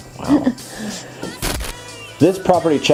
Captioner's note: static sound